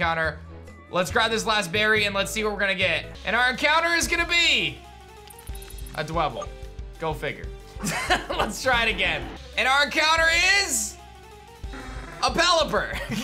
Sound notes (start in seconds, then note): 7.8 laughs